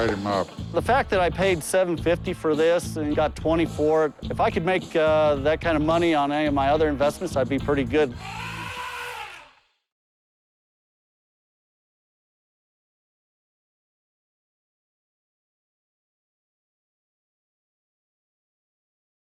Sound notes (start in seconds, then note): 8.1 elephant trumpeting